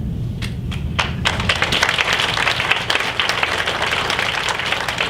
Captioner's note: audience applauds